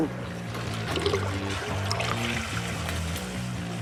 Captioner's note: water gurgles